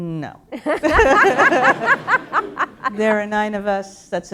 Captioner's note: laughter